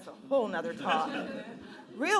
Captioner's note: laughing